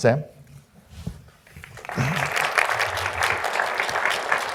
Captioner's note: audience applauding